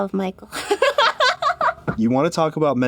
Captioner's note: giggles